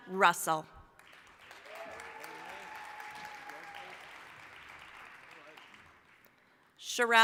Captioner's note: applause